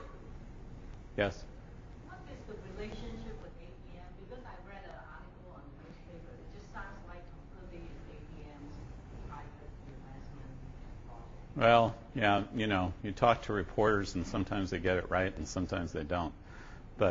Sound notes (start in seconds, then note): 2.1 woman Speaking